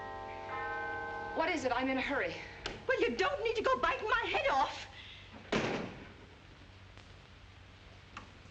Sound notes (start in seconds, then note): 5.5 door slams